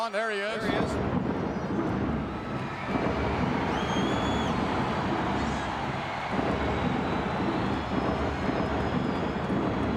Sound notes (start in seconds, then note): 0.4 crowd cheering; 0.7 dramatic music